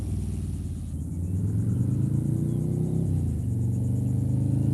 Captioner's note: motorbike roars, 3,500 RPM